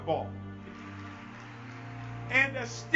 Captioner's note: audience clapping